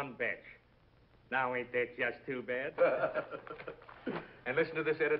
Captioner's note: gangster laughs